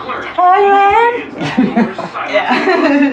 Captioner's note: lauaughteter